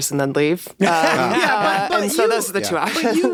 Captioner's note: everyone laughs